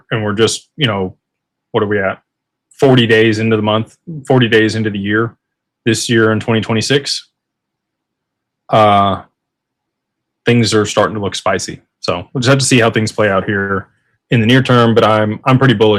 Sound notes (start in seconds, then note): none